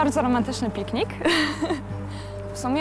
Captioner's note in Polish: śmiech